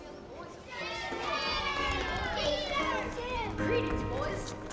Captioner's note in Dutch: kinderen juichen